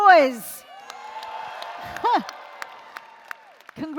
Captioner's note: applause & Cheering